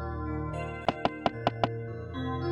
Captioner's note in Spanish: Pasos de Peach